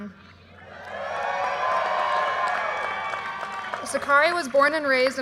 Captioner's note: audience cheers and applause